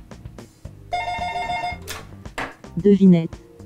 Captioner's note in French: sonnerie de téléphone